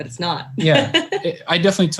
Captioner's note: laughing